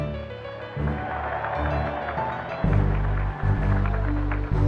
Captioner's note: applause